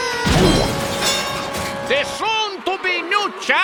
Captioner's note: bell dinging